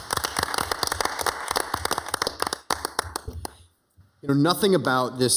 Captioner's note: city council members applauding